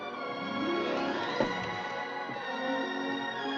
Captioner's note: tap